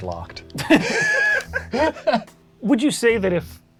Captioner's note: all laugh